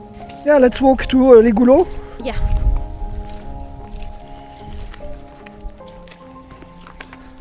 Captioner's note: walking sounds